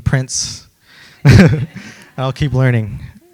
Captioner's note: laughs